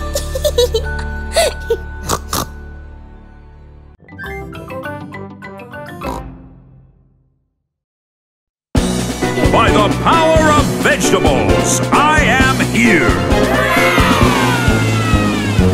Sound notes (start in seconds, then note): 0.1 laughing; 0.3 snorts; 6.2 snort